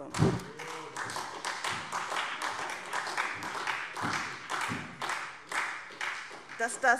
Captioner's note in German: Beifall SPD